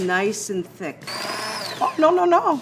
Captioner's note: mixer whirring